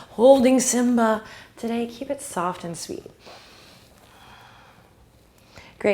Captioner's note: breathing